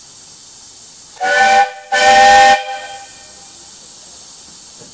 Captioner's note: 2x steam whistle